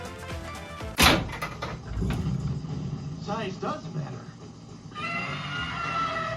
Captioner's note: pinball noises